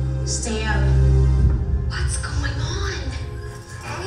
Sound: voiceover

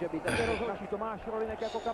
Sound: sigh

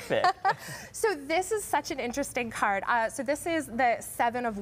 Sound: laughter

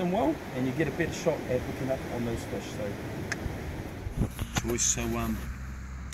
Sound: clicks

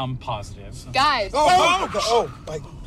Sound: tires screech

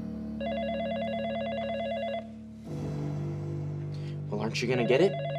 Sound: phone ringing

